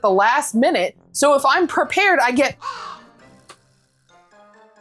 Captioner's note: caw